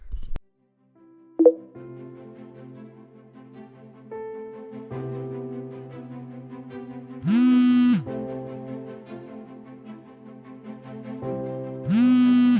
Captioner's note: phone Vibrating